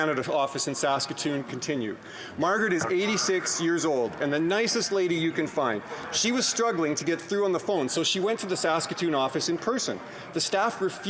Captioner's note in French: voix de l'interprète